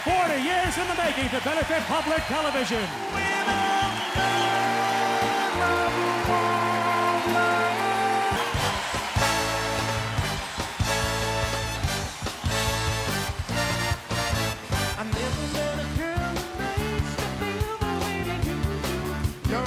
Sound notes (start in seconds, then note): 6.5 cheering; 8.7 upbeat music